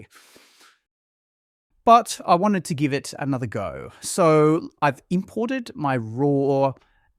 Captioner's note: inhales deeply